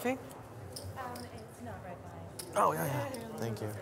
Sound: woman mumbling

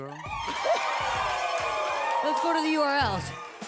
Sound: audience cheers

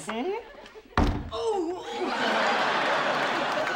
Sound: thump at door

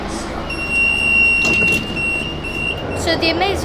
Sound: sound of doors closing

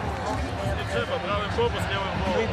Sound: man speaking Russian

